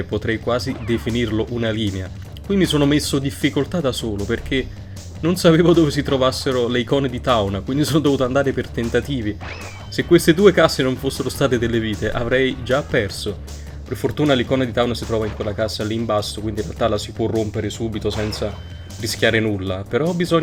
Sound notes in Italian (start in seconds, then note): 5.2 rumore di colpo